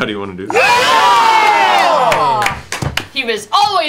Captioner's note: cheering